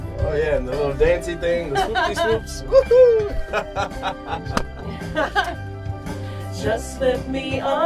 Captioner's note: laughter